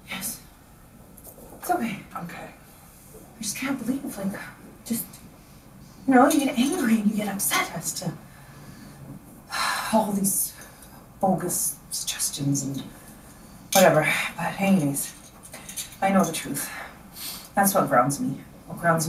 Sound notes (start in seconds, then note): 9.4 sighs